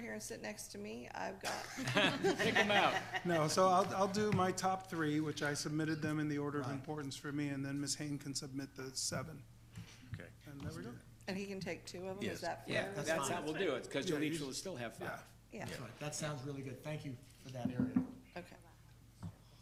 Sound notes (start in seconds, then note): 1.5 board members laughing